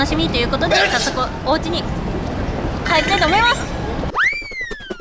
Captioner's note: achoo!!